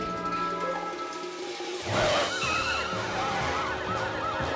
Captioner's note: cop cars screech to a halt, helicopters beat overhead